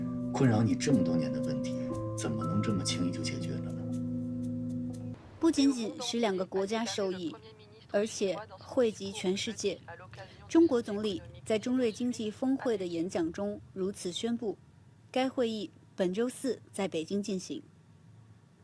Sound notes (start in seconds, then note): 10.3 French